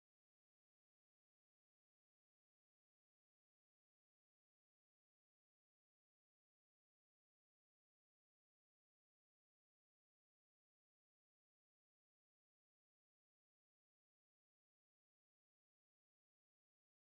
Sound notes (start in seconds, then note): none